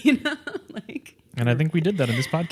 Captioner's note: laughs